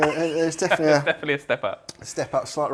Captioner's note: laughs